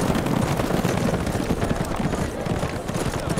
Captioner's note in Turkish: At nalı sesleri